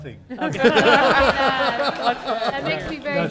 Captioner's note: laughter